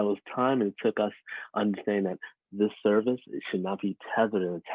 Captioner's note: chuckle